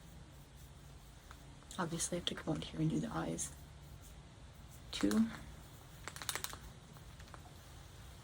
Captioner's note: shaking pen